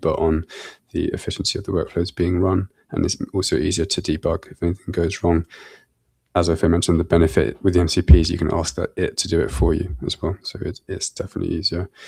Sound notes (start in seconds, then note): none